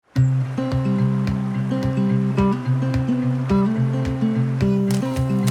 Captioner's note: light music; water murmuring